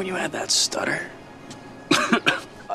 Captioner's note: coughs repeatedly